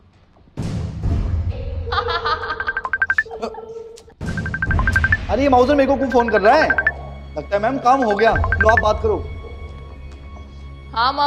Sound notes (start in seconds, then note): 2.0 laughing; 4.2 phone ringing